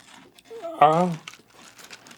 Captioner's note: weak whine as he consumes more cereal